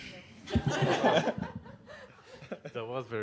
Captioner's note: audience laughing